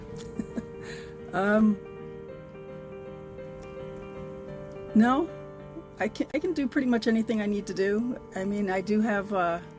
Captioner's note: laughs